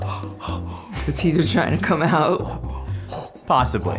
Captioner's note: panting